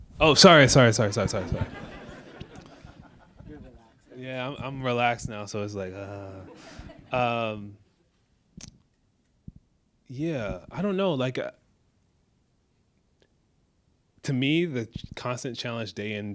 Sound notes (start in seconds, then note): 1.0 audience laughs